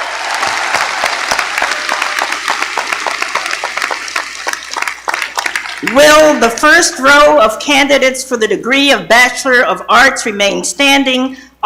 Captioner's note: appaluse